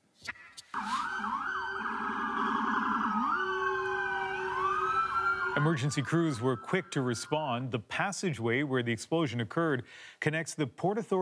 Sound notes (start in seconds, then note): 5.3 alarms and sirens